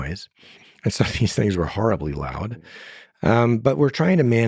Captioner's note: laughing